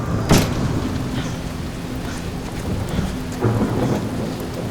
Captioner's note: thunder - rain